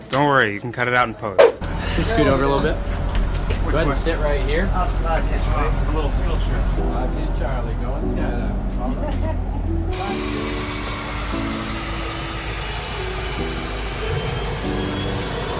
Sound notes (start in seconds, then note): 9.3 sound of plane engine